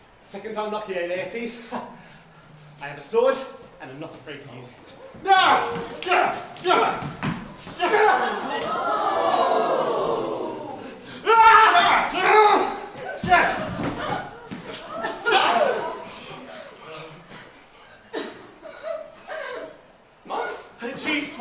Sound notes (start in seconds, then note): 5.4 gasps of horror as they duel